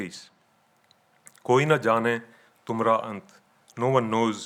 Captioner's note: speaking in foreign language